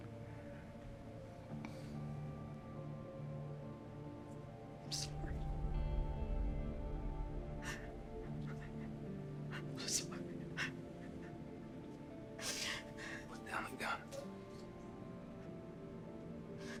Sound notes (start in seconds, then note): 0.1 somber music; 6.6 penny sniffling; 12.4 sniffling; 14.6 tense music